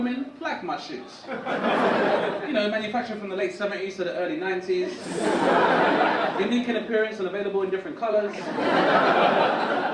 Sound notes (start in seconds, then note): 1.2 audience laugh; 6.6 audience laugh